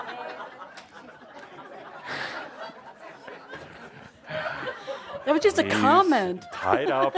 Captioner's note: laughter